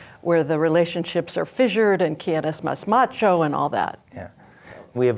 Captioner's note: speaks Spanish